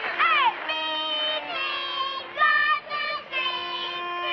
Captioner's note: kids chanting tauntingly